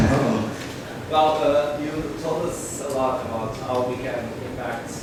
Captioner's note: voiceover